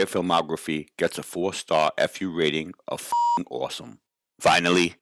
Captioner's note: beep